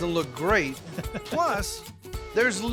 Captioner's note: chuckling